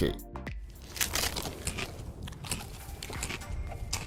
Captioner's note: popcorn crunching